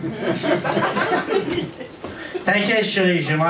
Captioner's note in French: rires public